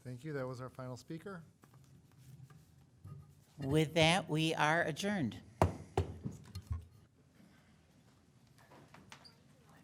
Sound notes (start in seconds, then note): 5.6 gavel thuds